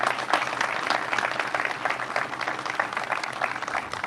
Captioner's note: crowd applauds